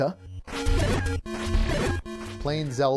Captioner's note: video game sound effects